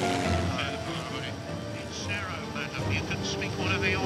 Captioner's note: radio chattering